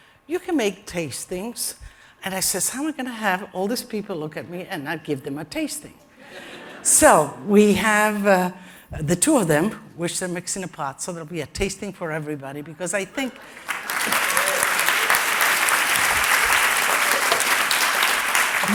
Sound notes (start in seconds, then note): 6.2 laughter; 13.3 applause